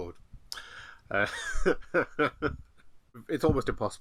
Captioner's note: laughs